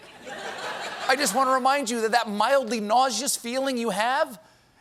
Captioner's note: laughter